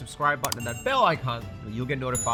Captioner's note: bell chimes